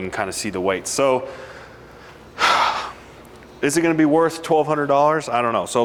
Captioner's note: sighs